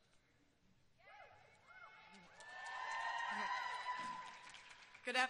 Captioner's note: applause and cheers